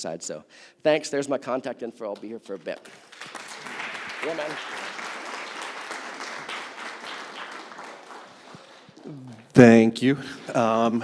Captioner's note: applause